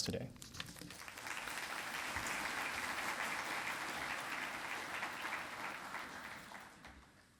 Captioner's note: applause